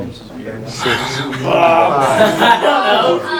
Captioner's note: chatter